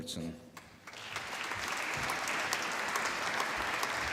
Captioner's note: applause